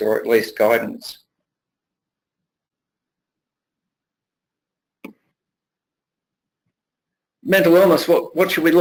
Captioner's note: pause